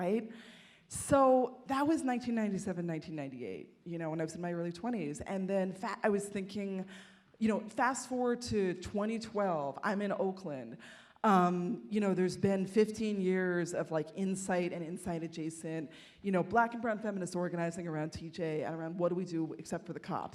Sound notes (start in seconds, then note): none